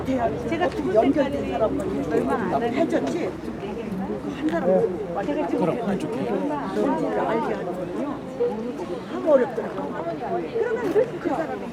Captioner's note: people talking